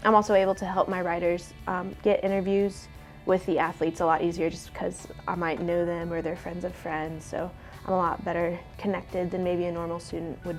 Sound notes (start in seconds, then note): none